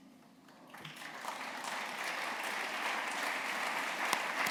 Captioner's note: applause